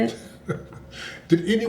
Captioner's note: laughs